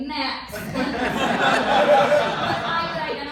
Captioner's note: laughter